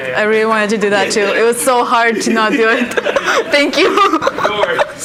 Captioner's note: laughs